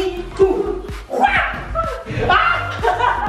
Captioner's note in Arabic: صبي يهتف; ضحكات خافتة من الكريستال